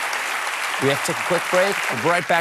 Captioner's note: applause